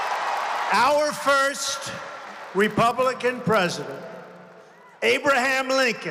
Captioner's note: applause